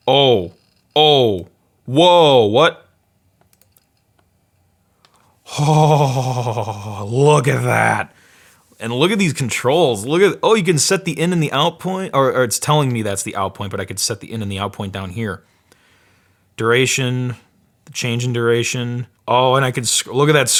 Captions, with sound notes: Oh, oh, wow! What, oh (moans) look at that! And look at these controls, look at, oh you can set the in and the out point. Or it's telling me that's the out point but I can set the in and the out point down here. Duration, change in duration, oh and I can, look at that